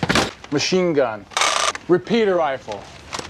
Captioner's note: gun pops; gun clicks